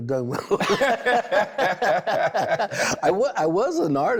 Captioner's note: both laughing